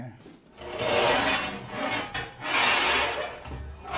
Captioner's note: scraping